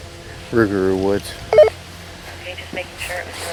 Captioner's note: walkie talkie bleeps